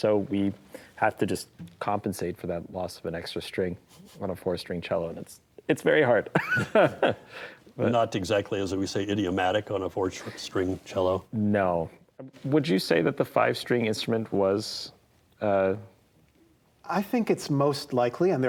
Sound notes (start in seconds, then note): 6.3 laughs